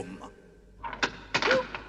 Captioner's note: lock clicks